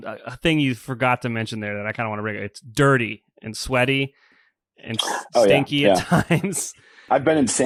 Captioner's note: laughs